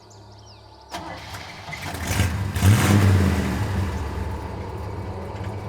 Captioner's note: truck engine starts; eerie music